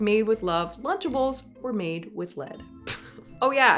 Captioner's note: chuckles